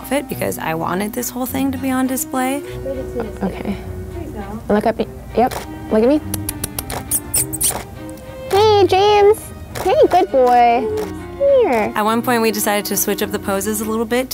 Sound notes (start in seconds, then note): 6.2 kissing teeth